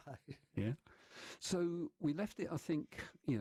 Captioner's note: laughter